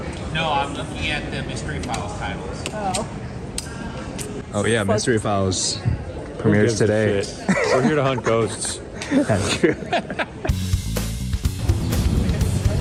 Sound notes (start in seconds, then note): 7.4 laughing; 10.2 Shane laughing; 10.4 relaxed music